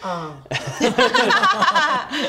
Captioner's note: laughs